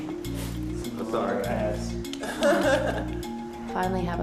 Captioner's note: chuckles